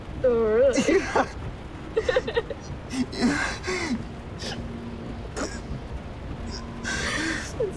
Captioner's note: laughter